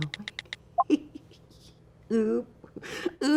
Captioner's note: laughing